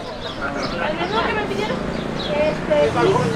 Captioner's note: road noise